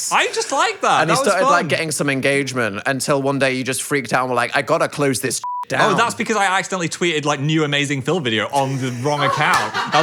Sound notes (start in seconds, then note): 5.4 beep